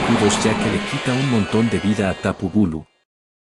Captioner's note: earthquake